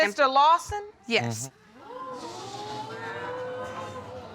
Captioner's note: audience exclaiming